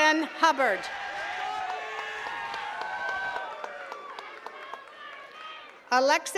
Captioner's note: attendees cheering and clapping